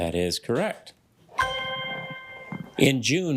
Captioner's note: ethereal ringing